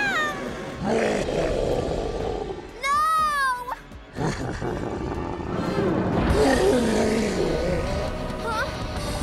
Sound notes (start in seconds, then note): 0.6 roaring; 4.1 laughing